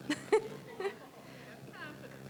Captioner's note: chuckling